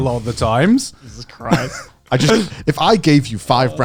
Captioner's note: chuckling